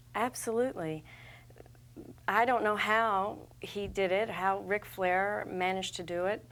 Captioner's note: none